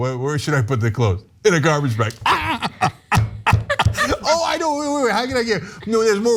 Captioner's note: laugh